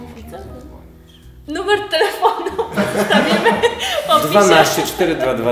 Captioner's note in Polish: śmiech